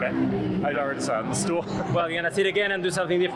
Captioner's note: laughs